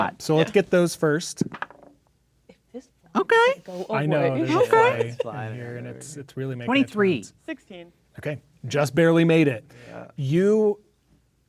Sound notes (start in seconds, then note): 1.5 dice rolling; 5.4 muttering quietly